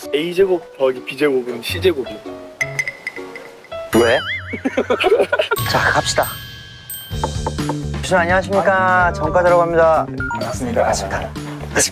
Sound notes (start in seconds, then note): 7.1 knock knock